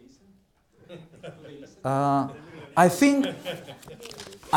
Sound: laughing

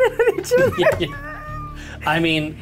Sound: both laugh

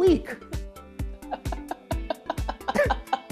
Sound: laughs

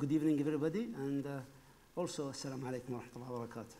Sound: speaking foreign language

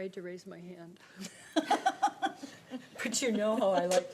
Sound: laughter

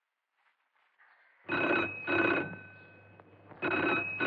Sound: phone Ringing

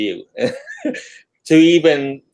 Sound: laughing

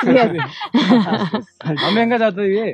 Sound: chuckles

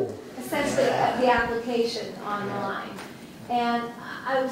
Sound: voiceover

